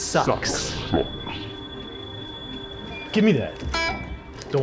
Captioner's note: feedback whines